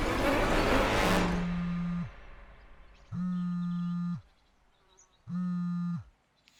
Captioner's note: faint phone buzzing